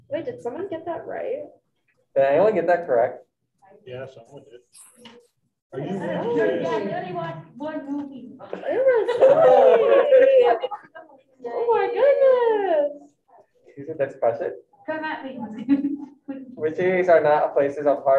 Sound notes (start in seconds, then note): 8.3 group chattering